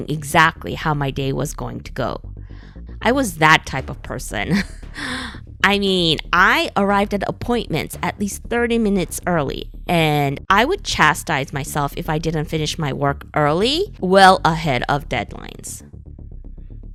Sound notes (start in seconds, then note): 4.5 haha